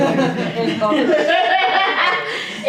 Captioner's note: laughter